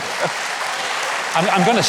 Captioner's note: audience applauding